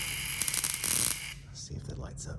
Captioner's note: zapping